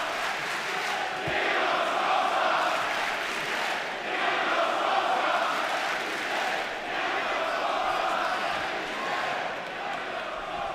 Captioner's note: fans chanting